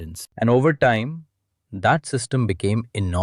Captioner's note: thoughtful